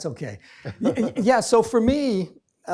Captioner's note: laughs